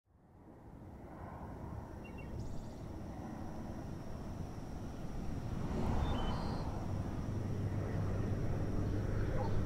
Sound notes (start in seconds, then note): 0.8 wind sounds; 2.4 birds chirping